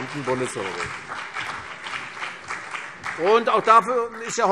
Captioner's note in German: Beifall CDU und BÜNDNIS 90/DIE GRÜNEN